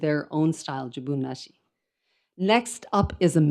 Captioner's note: speaks in foreign language